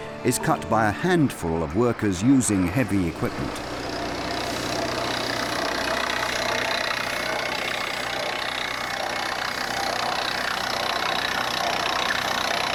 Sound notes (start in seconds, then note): 3.9 machinery rumbling